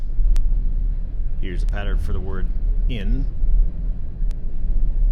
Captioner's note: train rumbling outside